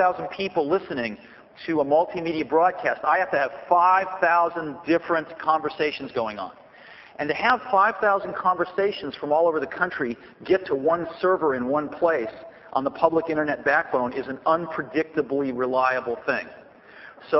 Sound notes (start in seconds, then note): none